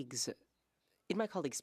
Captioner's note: speaking French